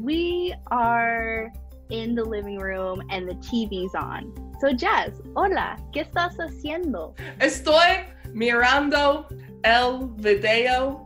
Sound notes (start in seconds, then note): 4.9 speaking Spanish; 7.2 speaking Spanish